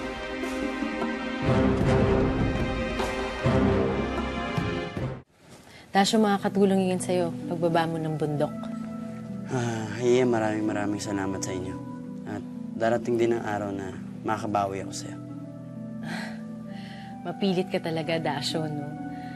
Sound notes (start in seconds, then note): 16.0 Yin sighs